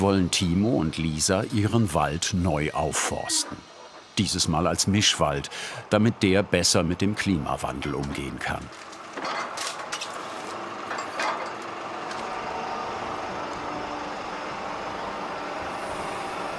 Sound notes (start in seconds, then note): 9.0 motor humming, clanking